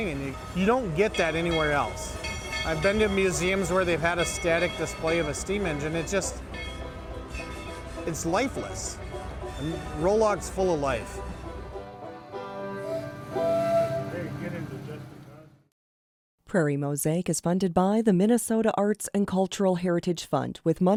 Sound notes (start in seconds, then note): 12.8 whistle blows; 16.6 voiceover